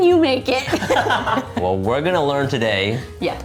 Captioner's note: both laugh